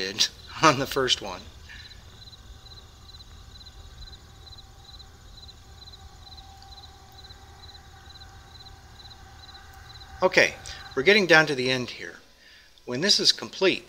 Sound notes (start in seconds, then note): 3.4 pause